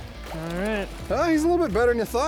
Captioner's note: pat